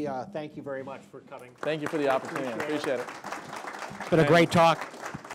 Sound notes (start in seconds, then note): 2.9 clapping